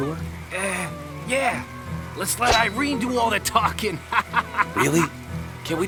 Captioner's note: laughs